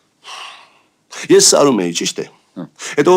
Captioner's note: huff